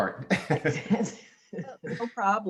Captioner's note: laughing